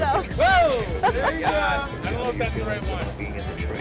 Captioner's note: laugh